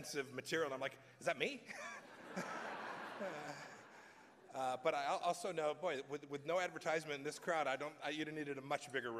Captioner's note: laughter